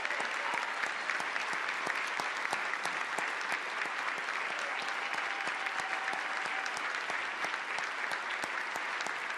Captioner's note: applause